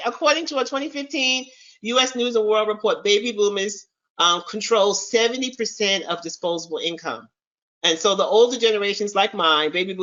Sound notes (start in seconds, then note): none